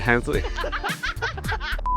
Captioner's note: laughing